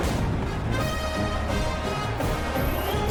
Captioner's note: crowd Noises